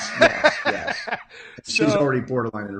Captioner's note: laughing